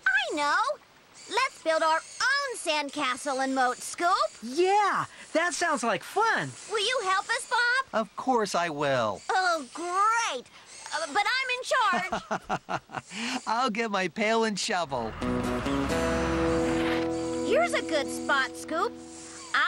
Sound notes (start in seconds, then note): 11.8 laughing